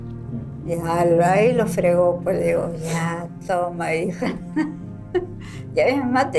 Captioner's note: laughs